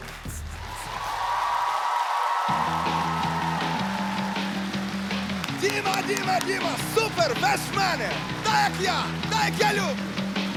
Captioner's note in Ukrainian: оплески